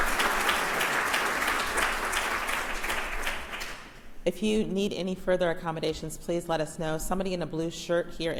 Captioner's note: applauses